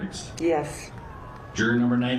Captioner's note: distant cheering